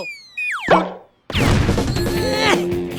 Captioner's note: grunt of effort